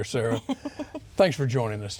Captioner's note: laughing